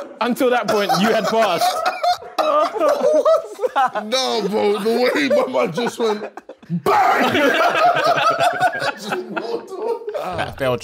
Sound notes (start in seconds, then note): 0.0 laughing; 1.8 group laughing; 7.9 group laughing